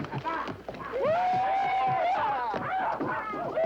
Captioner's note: cheering